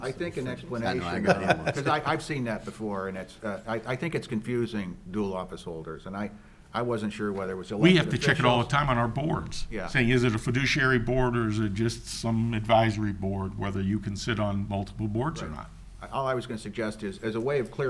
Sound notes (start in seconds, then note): 1.0 laughing